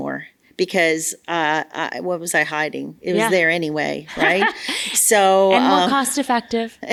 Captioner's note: laughs